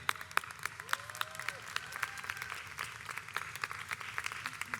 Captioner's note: audience applauds